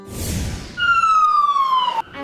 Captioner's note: siren wails